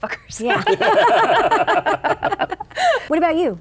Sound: laughing

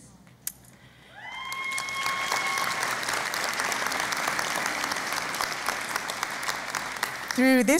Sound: cheering and Applause

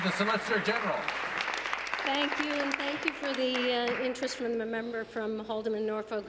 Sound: applause

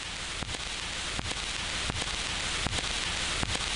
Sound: static buzzing

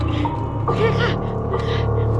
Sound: chuckles

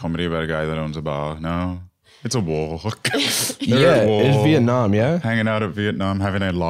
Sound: laughs

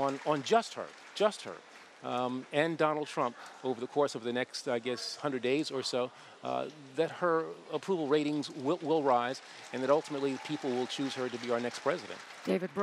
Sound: cheers & applause

